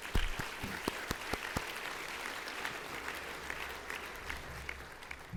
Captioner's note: applause